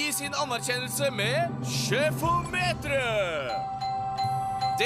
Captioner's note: dinging